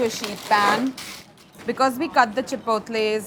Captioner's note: chips rustling